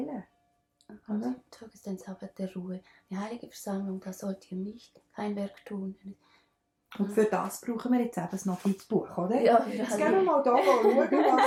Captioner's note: laughter